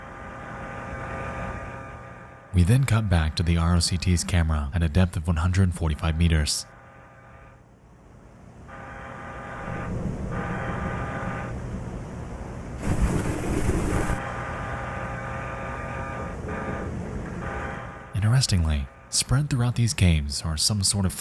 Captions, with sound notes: (eerie ambient music) We then cut back to the ROCT's camera at a depth of 145 meters. (eerie ambient music) (static hissing) Interestingly, spread through these caves are some sort